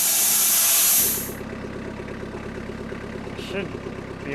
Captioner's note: forklift rumbles